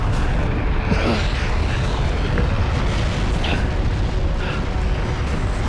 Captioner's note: grunt